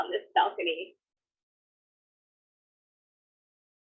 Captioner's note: sound briefly lost